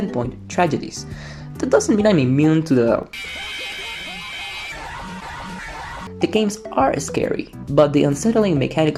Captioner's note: insert screamers